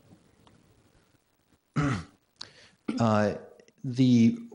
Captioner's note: clears throat